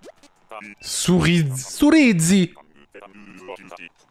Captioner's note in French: avec l'accent italien